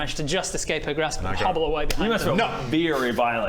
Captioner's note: slap